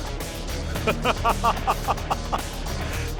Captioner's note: laughs